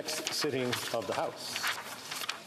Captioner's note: speaking French